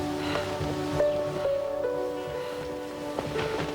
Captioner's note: panting